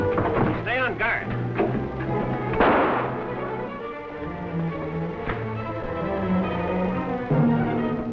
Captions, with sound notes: - Stay on guard. (gun firing)